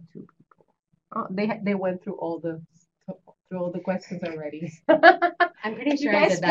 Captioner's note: laughter